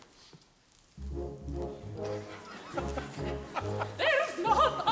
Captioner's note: men laughing